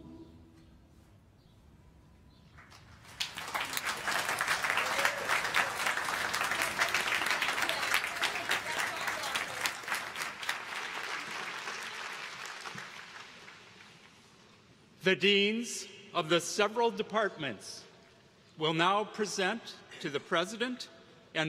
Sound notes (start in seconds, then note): 7.8 applause